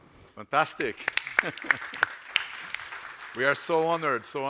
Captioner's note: audience applauds